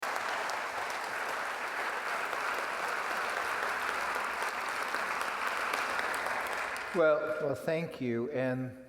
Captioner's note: applause